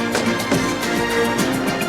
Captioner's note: doors thud